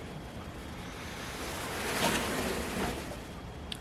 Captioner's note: fabric falls off the table